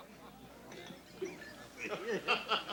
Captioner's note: laughter